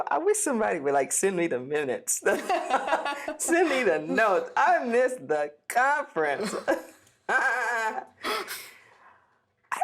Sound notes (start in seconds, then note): 2.3 both laugh; 7.2 both laughing